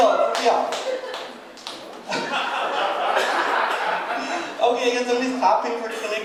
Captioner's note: one person clapping